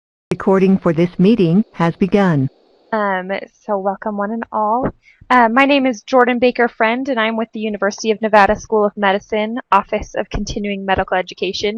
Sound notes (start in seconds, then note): 0.4 Electronic voice